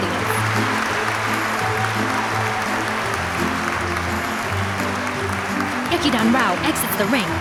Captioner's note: audience applause